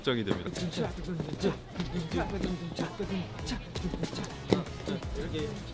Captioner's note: all the members beatbox together to check the timing